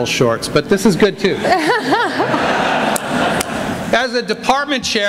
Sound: laughter

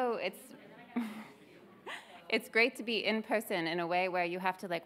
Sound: laughs

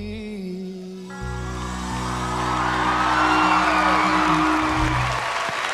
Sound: cheers and applause

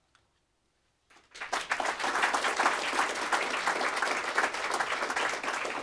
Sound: applause

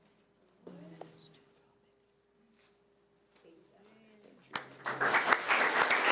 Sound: participants chattering; audience clapping

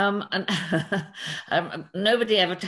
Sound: chuckles

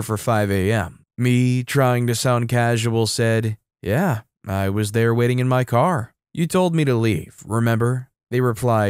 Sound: trying to sound casual

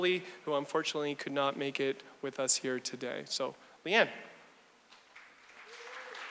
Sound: audience applause

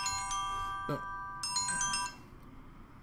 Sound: ringtone playing

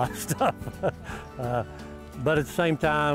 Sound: laughter

